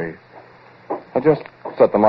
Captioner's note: footsteps